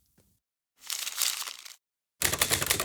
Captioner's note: paper crumples; typing